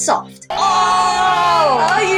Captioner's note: crowd Hollering